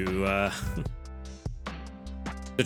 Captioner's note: chuckles